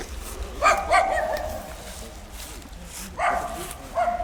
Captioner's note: dog barking